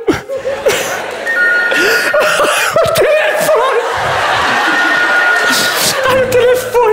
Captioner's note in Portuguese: toque de telefone